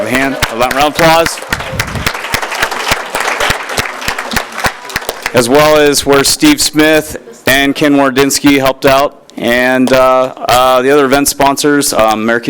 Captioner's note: applause